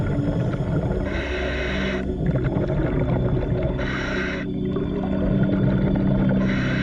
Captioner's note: suspenseful music; underwater breathing